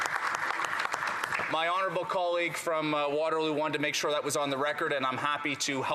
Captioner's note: applause